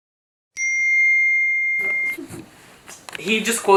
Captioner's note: phone pings